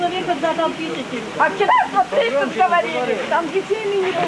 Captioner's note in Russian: Женщина 2, срывающимся криком